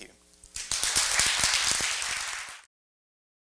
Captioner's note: applause